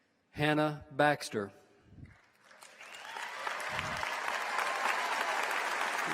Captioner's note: applause